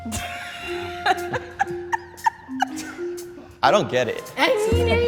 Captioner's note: laughs